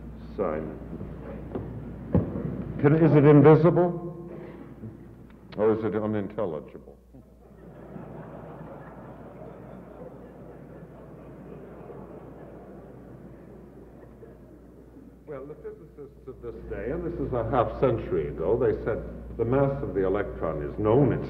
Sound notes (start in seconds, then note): 7.2 audience laughs